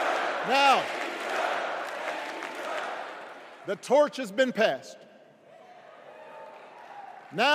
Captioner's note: crowd chanting